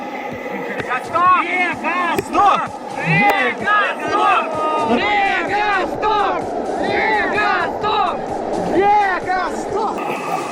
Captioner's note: sounds of joy